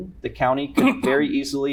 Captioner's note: cough